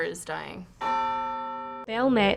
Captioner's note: bell tolls